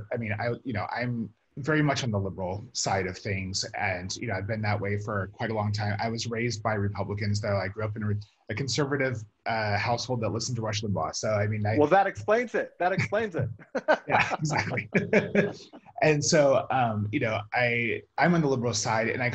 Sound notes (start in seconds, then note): 14.1 chuckles